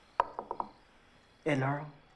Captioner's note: knocking